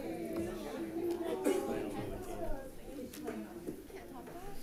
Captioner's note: chattering continues